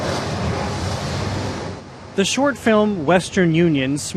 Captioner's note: waves crashing